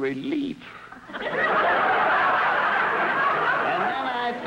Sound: audience laughter

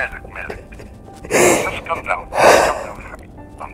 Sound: crying; deep breath

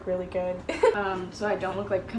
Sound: laughs

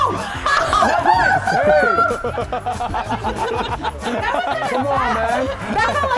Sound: laugh

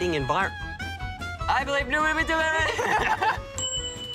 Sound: speaks jibberish; bell rings

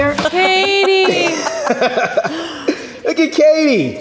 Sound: everyone laughs

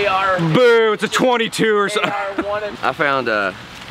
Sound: laughs

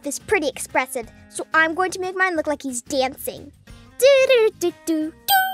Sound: hums

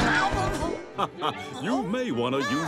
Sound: laughing

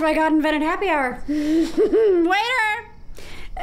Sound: laughing

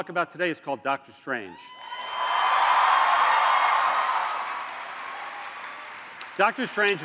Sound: cheers and applause

